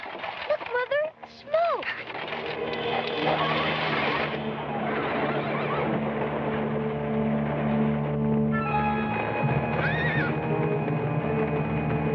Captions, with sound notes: Look mother. Smoke! [Horses whining]